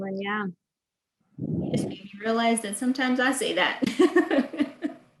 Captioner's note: laughs